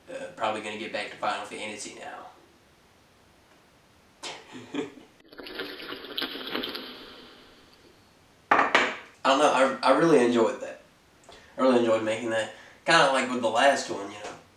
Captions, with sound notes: Uh, probably gonna get back to Final Fantasy now. (laughs) [Distorted Roblox bloxy cola sound effect] I don't know I-I really enjoyed that. I really enjoyed making that kinda like with the last one you know.